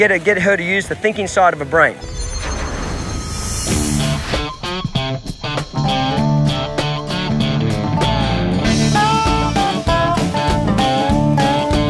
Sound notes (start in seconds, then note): 2.0 shimmering; 4.8 upbeat country music